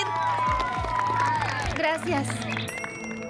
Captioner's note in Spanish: aclamaciones y aplausos